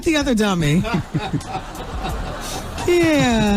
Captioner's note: audience laughing